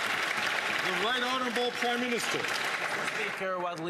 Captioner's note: some Applause